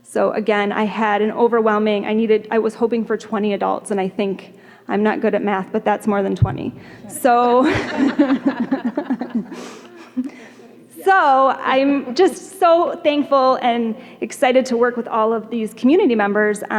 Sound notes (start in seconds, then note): 7.4 laughter